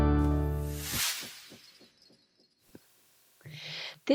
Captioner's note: sound effect